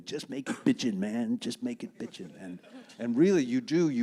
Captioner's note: audience laughing